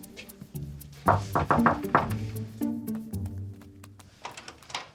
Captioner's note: knocking on door